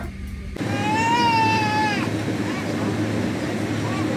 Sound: loud crying

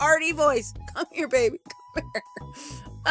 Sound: laughing

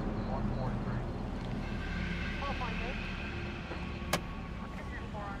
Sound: faint police radio chattering

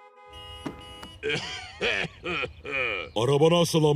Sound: coughing

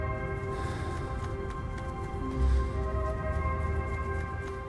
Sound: leaves rustling

